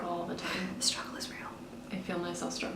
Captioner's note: whispers